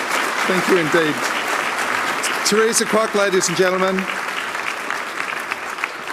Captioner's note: applause